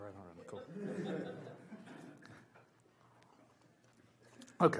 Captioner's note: audience laughs